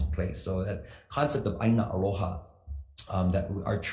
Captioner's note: speaks foreign language